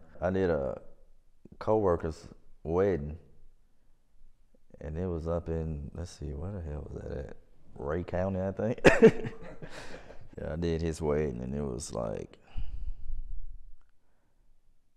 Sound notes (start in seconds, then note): 8.8 laughs; 14.2 laughs